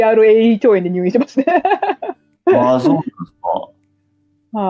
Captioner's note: laughs